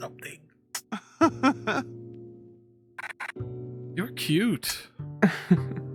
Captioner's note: stranger laughs